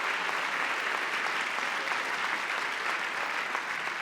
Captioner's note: cheering; applause